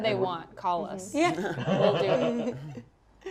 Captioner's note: laughing